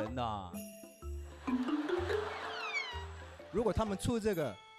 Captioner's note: can't hold in their laughter